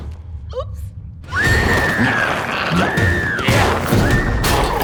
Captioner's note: glowzies growling; screams; glowzies growling; dramatic music